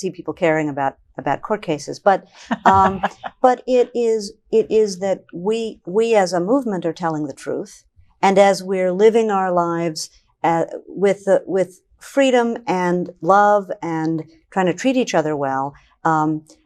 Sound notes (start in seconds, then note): 2.4 laughing